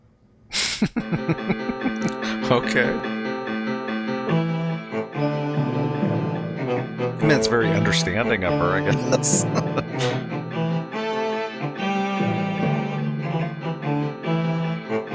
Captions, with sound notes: [Laughing] Okay. Well, it's very understanding of her, I guess. [Chuckling]